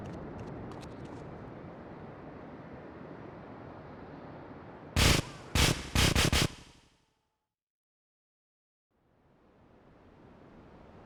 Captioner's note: plane engine roaring